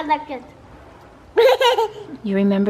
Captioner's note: laughs